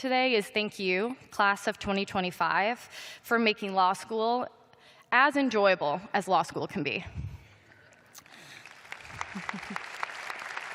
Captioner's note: applause